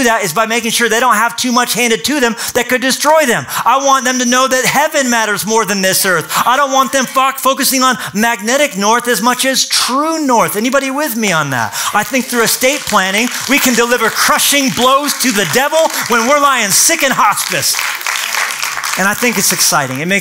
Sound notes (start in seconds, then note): 17.5 applause